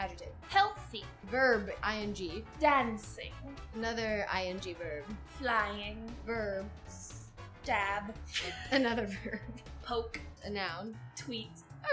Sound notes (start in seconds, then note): 8.5 laughs